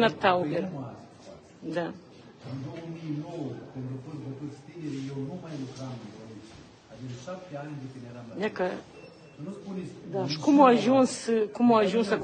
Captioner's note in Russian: неразборчивый разговор